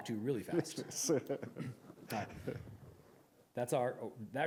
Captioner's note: laughter